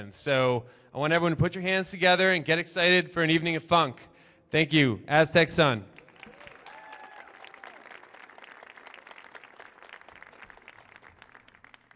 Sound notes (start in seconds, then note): 5.9 audience applauding